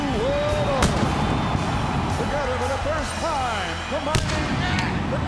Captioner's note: fireworks booming